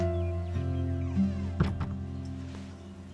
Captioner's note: door shuts